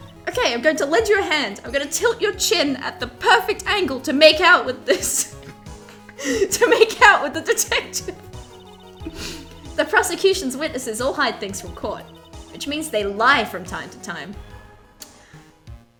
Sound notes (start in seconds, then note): 4.3 laughing; 4.3 laughs